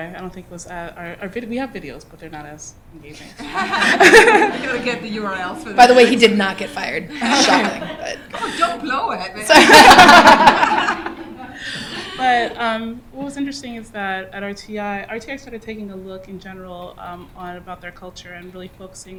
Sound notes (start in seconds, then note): 3.5 laughter; 11.0 laughter